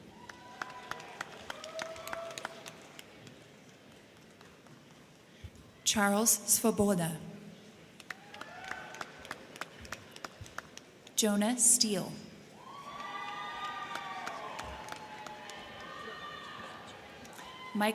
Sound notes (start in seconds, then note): 0.0 crowd cheering; 0.0 crowd clapping; 7.9 crowd clapping; 8.0 crowd cheering; 12.6 crowd cheering; 12.7 crowd clapping